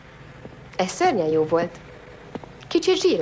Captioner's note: none